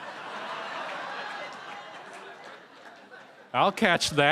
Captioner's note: laughter